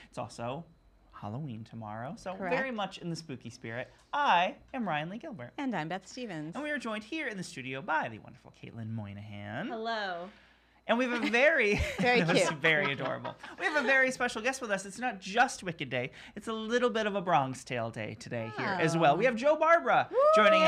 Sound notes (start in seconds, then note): 11.7 laughing; 20.1 cheering